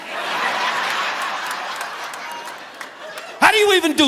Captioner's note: audience laughing